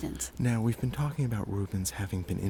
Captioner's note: voiceover